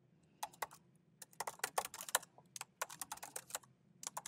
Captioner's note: keyboard clanking